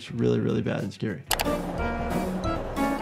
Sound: mouse clicking

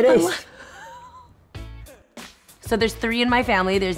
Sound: laughter

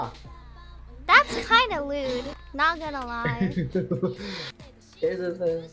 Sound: laughing

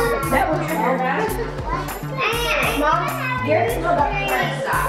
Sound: children talking

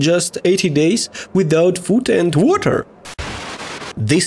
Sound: interference

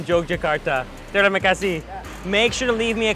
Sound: speaking in foreign language

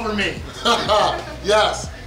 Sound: laughing

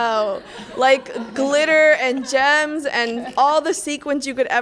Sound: laughter

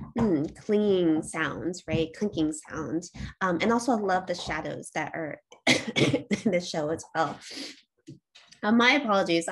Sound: coughs

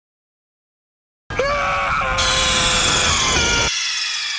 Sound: screams

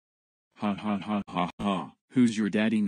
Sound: evil laughter

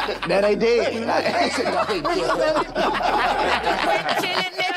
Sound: group laughs

